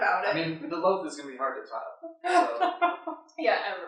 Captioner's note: laughter